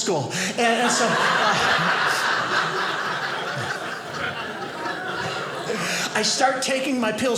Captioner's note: audience laughing